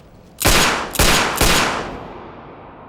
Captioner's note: gunshots